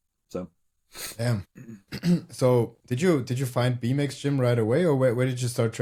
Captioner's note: sniffs; clears throat